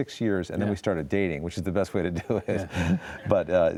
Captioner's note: laughs